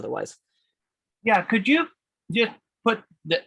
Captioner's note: calm Voice